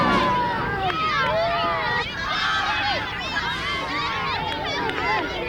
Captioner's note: children chatter excitedly